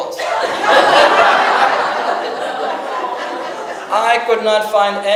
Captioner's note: audience laughs